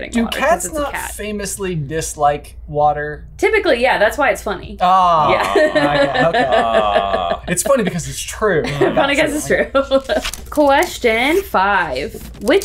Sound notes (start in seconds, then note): 5.2 laughing